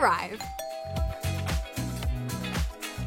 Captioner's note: door bell rings; bright music